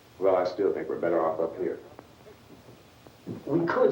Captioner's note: none